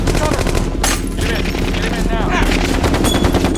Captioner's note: guns firing; dramatic music; guns firing